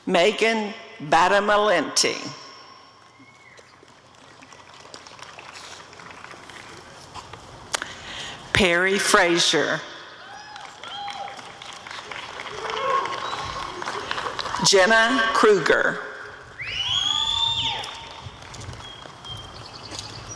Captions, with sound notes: Megan Badalamente [applause] Perri Frazier [applause and cheering] Jenna Krueger [applause and cheering]